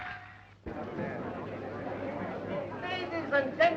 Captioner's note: crowd murmuring